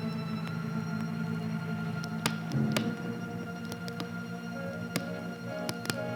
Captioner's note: tapping